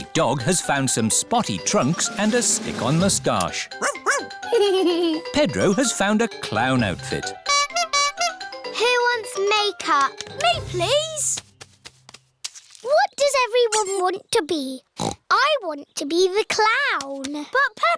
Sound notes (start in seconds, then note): 3.9 giggles; 7.4 toots horn; 15.0 snorts